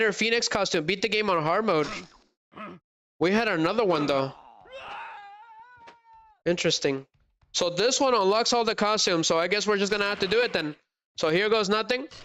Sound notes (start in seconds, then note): 3.9 crying